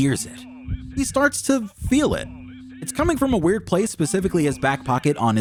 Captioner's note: phone vibration sound; phone vibration sounds